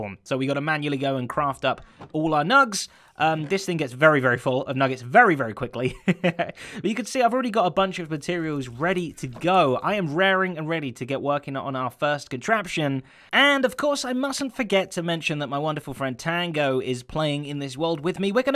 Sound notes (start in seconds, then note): 5.8 chuckles